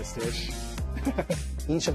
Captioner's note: chuckles